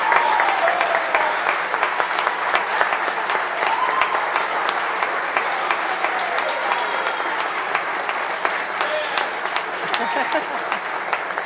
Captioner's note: applause